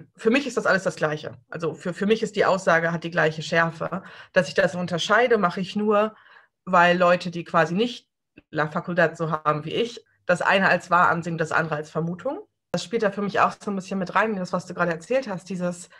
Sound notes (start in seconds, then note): none